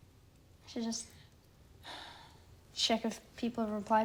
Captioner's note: sighing